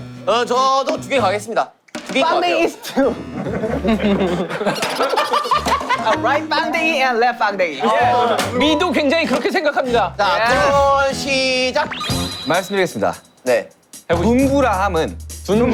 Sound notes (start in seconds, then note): 4.8 Tertawa hahaha